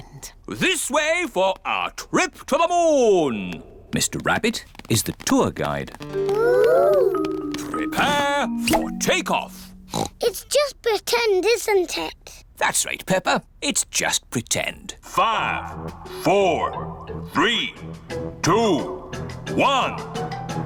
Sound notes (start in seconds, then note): 9.8 oinks; 15.6 on speakers